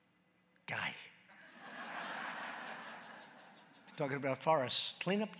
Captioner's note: laughter